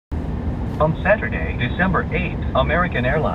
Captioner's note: man on radio